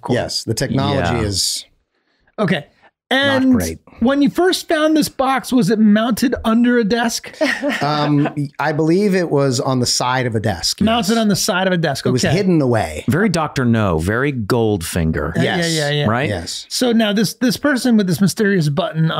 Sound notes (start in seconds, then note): 7.3 laughs